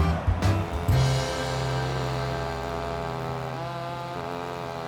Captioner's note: saw buzzes